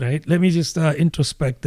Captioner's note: uh